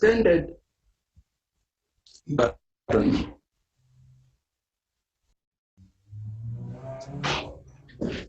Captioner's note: interruption in audio